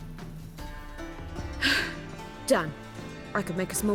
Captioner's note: loud sigh